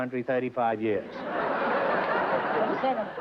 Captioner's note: laughter